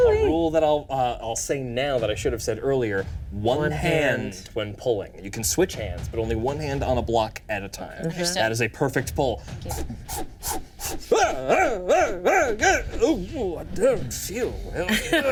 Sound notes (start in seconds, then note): 9.8 wizard shouting